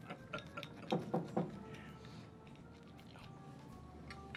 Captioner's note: laughing; knocks on door